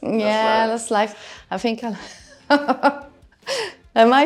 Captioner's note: laughter